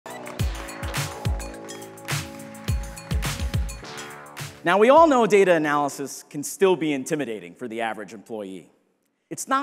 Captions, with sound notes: (air whooshing) (upbeat music) Now, we all know data analysis can still be intimidating for the average employee.